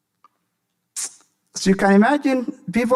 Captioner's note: smacks lips